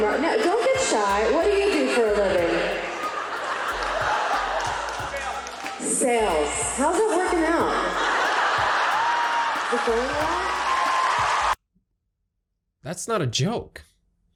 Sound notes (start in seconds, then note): 2.8 more laughter; 7.6 crowd laughs and applauds